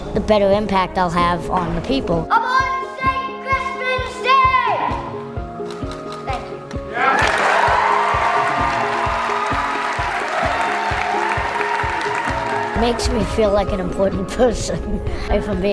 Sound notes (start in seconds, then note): 6.9 audience cheers; 15.0 laughs